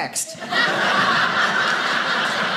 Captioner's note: audience laughing